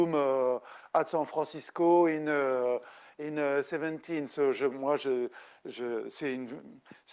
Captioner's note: speaking French